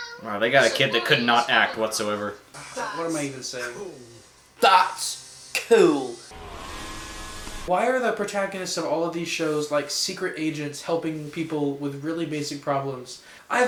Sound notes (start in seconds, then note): 5.0 British accent